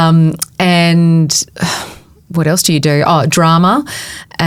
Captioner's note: sighs